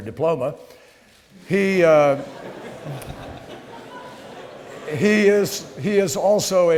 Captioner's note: laughter